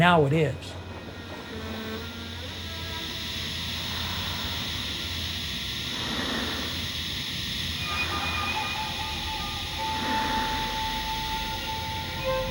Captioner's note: machine hissing